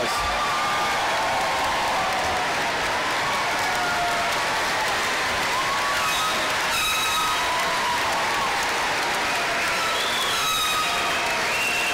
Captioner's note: applause